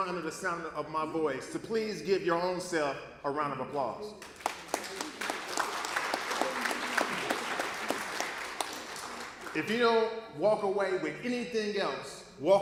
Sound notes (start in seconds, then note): 4.2 applause